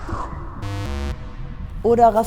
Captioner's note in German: Buzzer-Geräusch